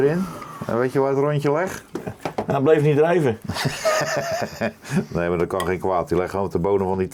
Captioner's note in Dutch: gelach